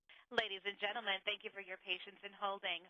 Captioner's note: voiceover